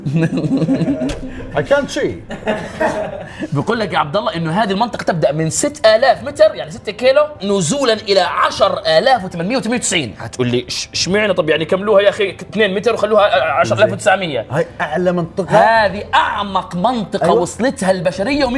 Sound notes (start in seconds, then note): 0.0 laughing